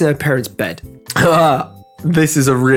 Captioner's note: laughs in French